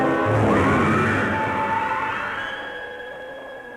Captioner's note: screaming